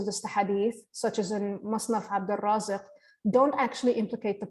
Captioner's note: line in Arabic